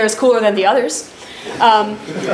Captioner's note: laughter